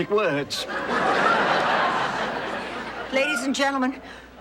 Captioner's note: audience laughing